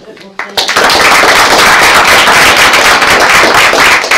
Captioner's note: applause